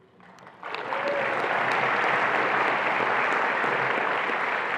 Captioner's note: attendees applauding